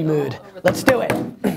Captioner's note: hits desk